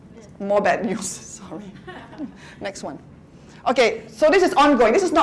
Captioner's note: laughter